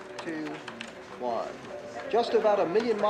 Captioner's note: people chattering